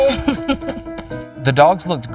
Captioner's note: laughing